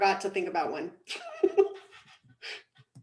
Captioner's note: laughs